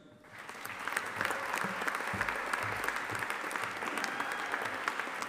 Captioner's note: audience applauding